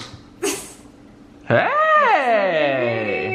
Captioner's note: laughs